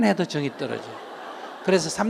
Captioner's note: audience Laughter